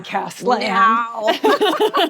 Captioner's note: laughter